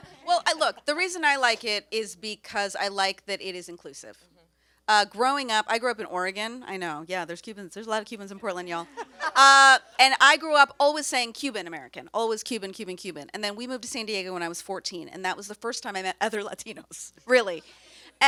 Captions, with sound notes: Uh, well look, the reason I like it is because I like that it is inclusive. Growing up, I grew up Oregon. I know, yeah there's Cubans. There's a lot of Cubans in Portland, you all. (panelists laugh) And I grew up always saying Cuban-American. Always Cuban, Cuban, Cuban. And then we moved to San Diego when I was 14. And that was the first time I met other Latinos, really.